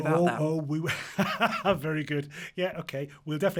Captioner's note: laughs